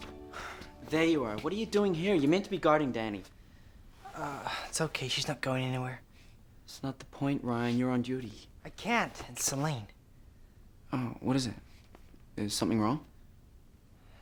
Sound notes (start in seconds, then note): 0.3 sighs